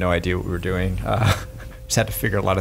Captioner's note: laughs